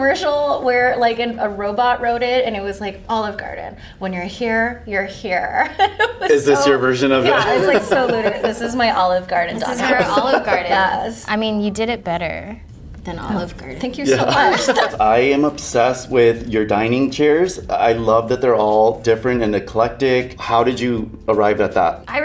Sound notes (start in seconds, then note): 5.8 laughing; 14.1 all laughing